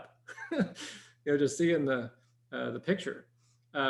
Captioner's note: chuckles